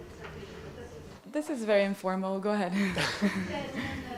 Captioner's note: chuckles